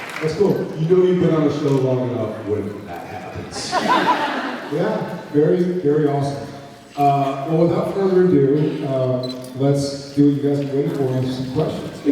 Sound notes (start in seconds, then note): 3.5 laughs